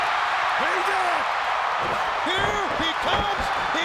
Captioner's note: crowd cheering